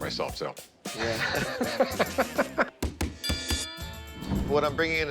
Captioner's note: laughs